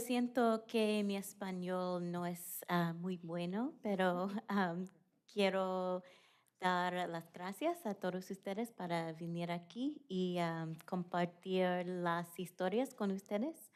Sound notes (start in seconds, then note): 5.4 speaking spanish